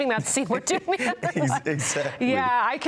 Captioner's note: both laughing